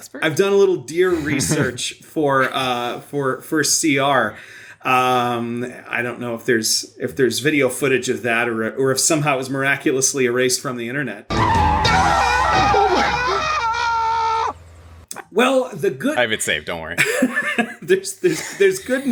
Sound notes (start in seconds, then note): 11.3 screaming; 11.3 car tires screeching